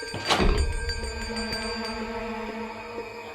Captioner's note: distant bell